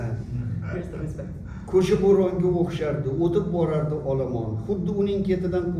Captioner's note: non-english speech